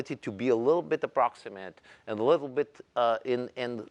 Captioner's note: none